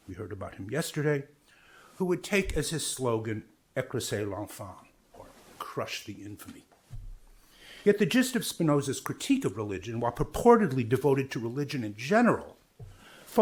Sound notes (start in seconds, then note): 3.8 speaks in foreign language